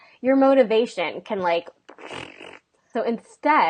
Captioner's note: farting noise